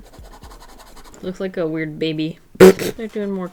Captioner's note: laughs